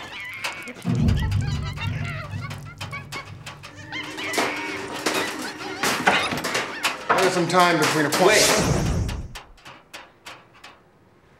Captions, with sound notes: [cage clanging] I got some time between appoint-- [magical sound] - Wait.